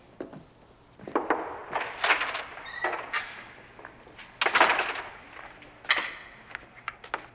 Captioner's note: door opening; knocking on door